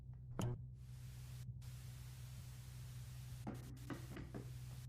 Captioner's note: TV static buzzing